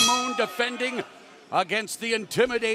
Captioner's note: bell ringing